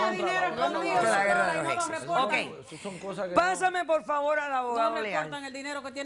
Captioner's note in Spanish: Hablan al unísono